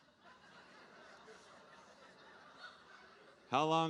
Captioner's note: audience laughing